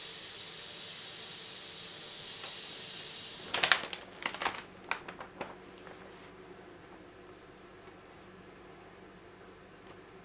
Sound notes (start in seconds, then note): 3.4 artwork crackling